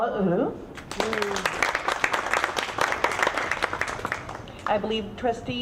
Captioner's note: audience clapping